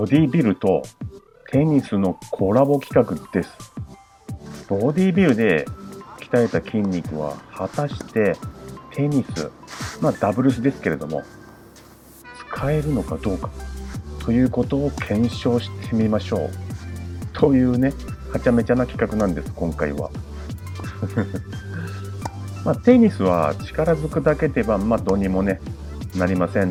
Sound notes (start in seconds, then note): 20.7 laughs